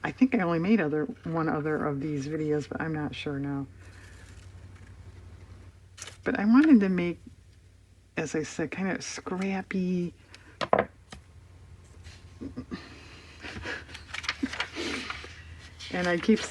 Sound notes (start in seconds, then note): 12.1 laughs